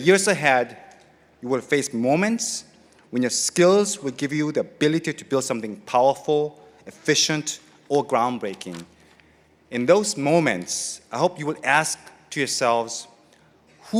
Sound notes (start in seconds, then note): none